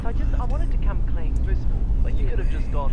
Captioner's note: woman On Radio; man On Radio